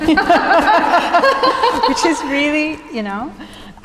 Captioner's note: laughs